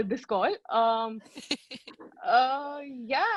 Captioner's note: teammates laughing